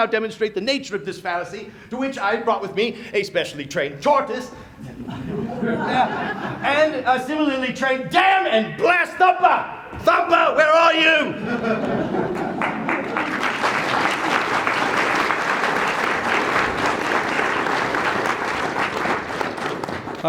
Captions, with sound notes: demonstrate the nature of this fallacy to which I brought with me a specially trained tortoise [laughter] and a similarly trained- damn and blast. Thumper, Thumper, where are you? [laughter] [applause]